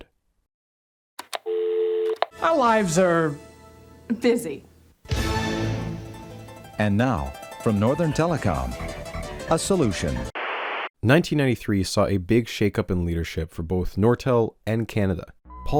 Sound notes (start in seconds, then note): 1.2 click; 1.4 dial tone; 10.3 static